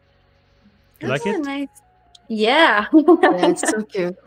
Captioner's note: laughs; laughs